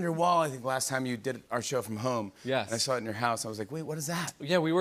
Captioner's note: none